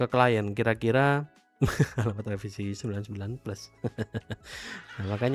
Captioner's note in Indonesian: tertawa